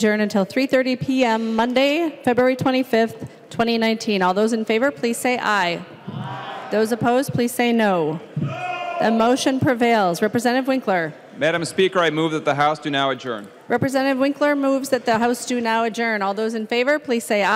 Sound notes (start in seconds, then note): 12.7 chorus of ayes